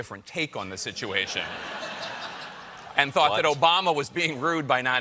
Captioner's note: laughter